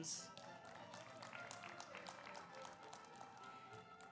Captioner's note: audience applauds